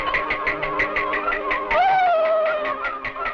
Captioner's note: hoist clicking; dramatic music; footsteps clicking